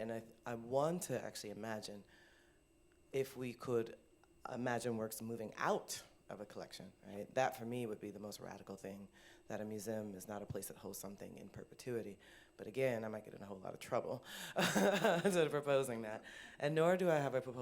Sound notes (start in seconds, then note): 14.5 laughter